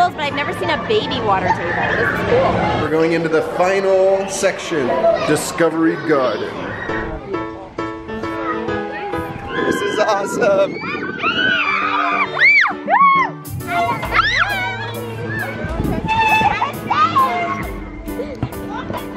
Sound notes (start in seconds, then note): 7.0 upbeat piano music; 10.9 children screaming